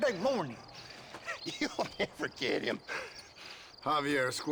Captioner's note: laughing